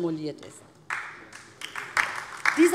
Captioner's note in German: Beifall DIE LINKE